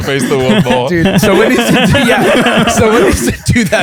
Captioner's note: laughter